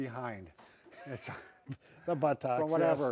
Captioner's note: both chuckle